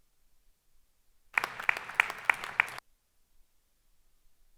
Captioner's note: clapping